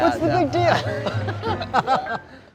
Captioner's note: chuckles